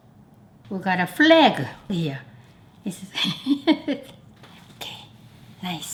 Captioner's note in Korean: 웃음소리